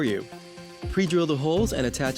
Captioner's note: drill whirring